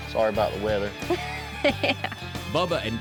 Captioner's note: laughs